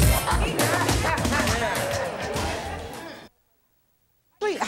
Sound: audience murmuring

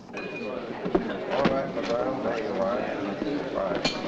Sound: crowd chattering

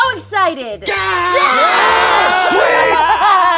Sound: yelling

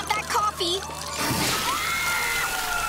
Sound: screaming

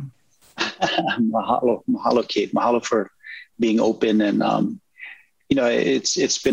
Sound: laughs

